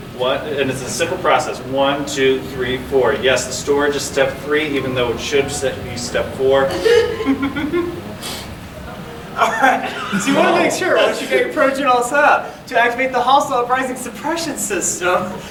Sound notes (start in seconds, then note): 6.2 audience laughing; 9.0 laughing